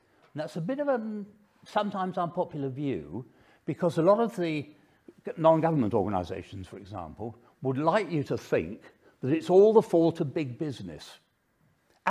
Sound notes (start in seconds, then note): none